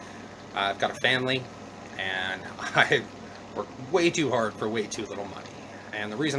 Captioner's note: chuckles